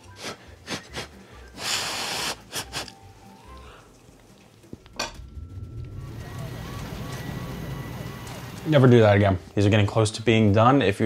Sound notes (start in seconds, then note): 0.0 blowing; 5.1 sirens wailing